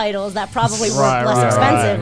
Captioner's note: group agreeing